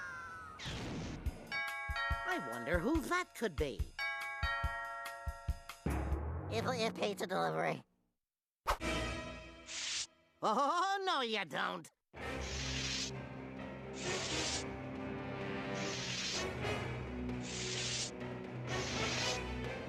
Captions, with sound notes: [doorbell ringing] I WONDER WHO THAT COULD BE. PIZZA DELIVERY. OH, NO YOU DON'T.